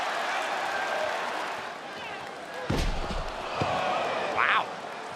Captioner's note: applause